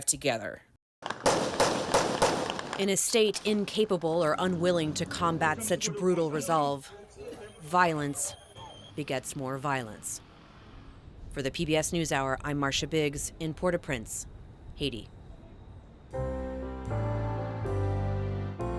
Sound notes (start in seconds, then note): 2.7 gunshots